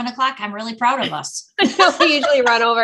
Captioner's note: laughing